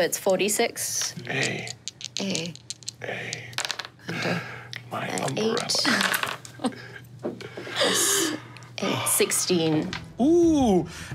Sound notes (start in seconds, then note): 6.4 laughs